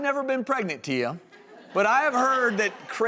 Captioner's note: audience laughing